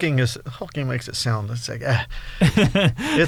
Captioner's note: laughs